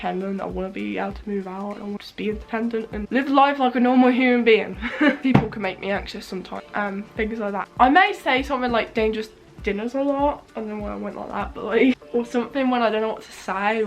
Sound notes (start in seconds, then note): 4.8 laughs